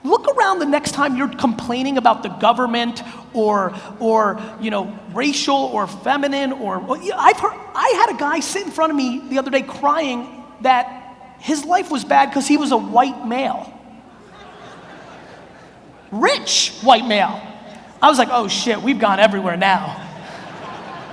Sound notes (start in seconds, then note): 14.0 audience murmurs